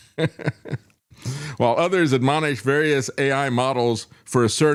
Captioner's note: laughs